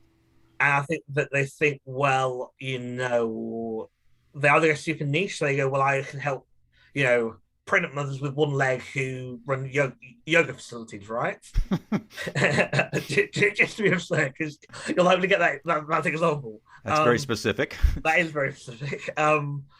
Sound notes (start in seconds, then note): 11.5 laughing